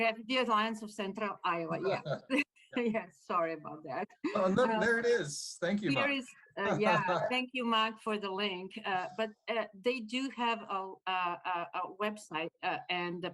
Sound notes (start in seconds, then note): 4.2 laughter; 6.6 laughter